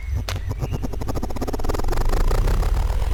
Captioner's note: machine whirring